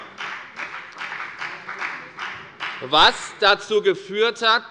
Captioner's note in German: Beifall bei der FDP